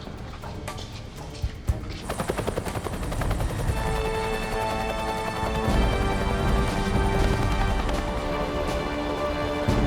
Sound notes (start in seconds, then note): 1.9 helicopter whirring